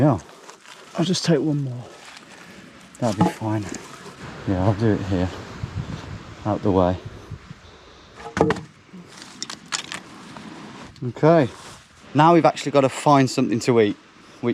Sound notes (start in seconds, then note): 8.2 sticks plink; 8.2 wood thuds